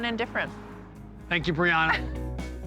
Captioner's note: laughs